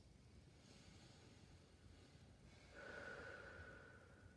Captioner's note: breathing deeply